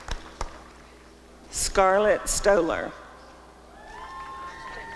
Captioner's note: applause; applause and cheering